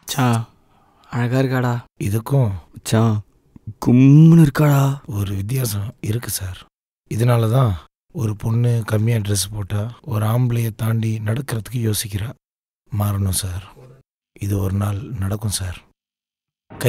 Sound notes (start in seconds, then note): 2.6 horny voice